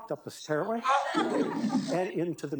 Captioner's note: audience laughing